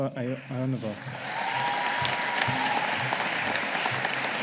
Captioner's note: audience applauding